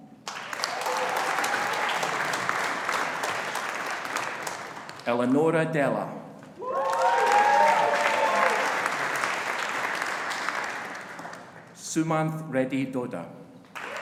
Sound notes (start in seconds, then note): 0.2 audience applauding; 6.6 audience applauding